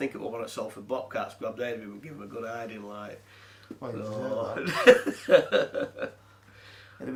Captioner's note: laughs